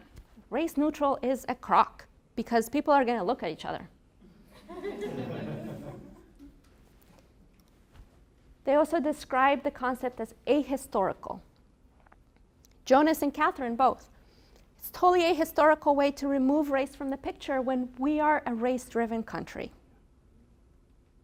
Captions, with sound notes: Nina, "Race neutral is a croc, because people are gonna look at each other." (laughter) They also describe the concept as a-historical. Jonas and Katherine, both-- "It's totally an a-historical way to remove race "from the picture when we are a race driven country."